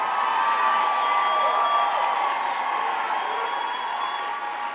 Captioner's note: crowd cheers loudly